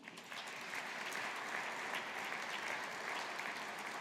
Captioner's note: audience applauding